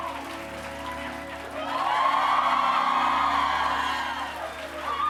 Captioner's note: cheers and applause